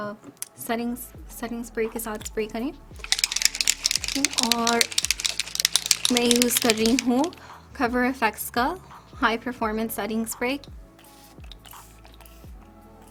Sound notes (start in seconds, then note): 3.0 shakes spray bottle